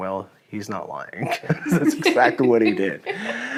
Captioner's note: laughing